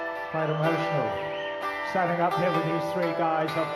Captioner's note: crowd cheering